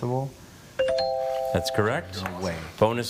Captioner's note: buzzer chimes